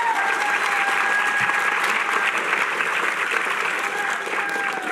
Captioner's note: cheering